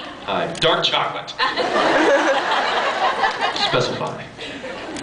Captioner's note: laughs